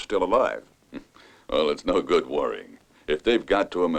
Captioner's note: chuckles